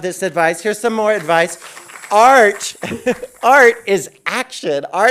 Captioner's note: audience applauding